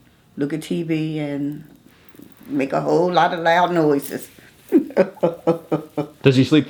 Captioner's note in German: lacht